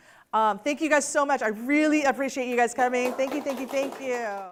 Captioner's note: clapping